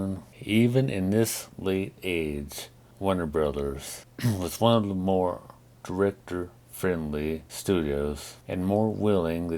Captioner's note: clears throat